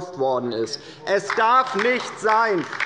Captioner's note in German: Beifall bei der LINKEN